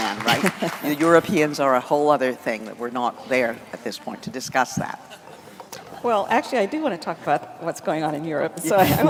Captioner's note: applause